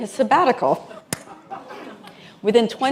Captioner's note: laughter